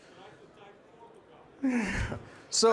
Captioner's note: participant faintly speaking